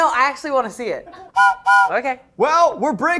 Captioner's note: whistle blows